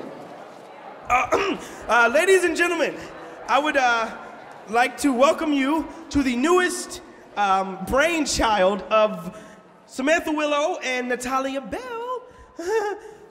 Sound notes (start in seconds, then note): 1.2 clears throat; 12.5 chuckles